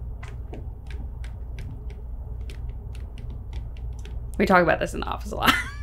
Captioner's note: markers writing